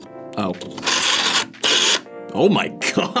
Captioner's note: dial whirs; laughs